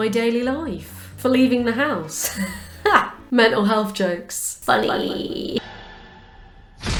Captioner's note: chuckles